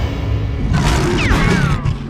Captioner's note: growls